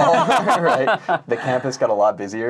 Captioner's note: laughing